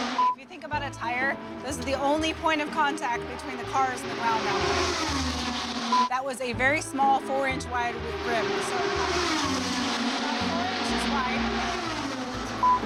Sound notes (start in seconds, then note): 4.9 race car speeding